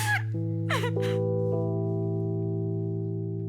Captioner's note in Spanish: Sollozos